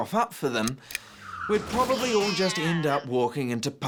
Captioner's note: car crashing, cat screeching